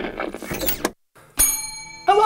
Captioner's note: ding